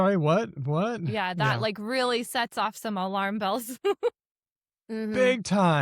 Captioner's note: laughs